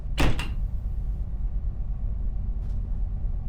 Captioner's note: banging